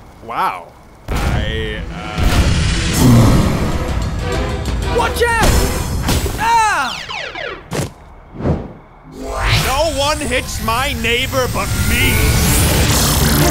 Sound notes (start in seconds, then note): 7.0 power down sound